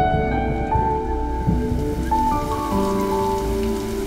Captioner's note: Rain pattering